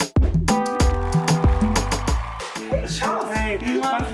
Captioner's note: applause